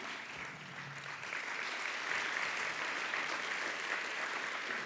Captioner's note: audience applauds